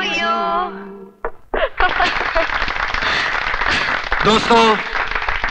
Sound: applause

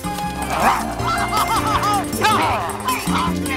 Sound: growling, screaming

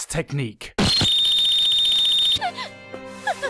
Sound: ear Rape

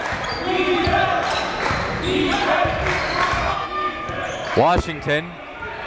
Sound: crowd

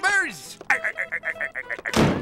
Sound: laughing

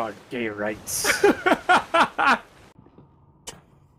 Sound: laughing

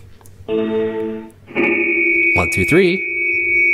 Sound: ring and high pitched noise

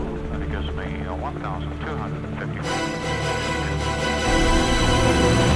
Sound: radio talks

